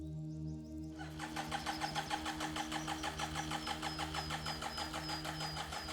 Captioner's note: motorcycle engine stuttering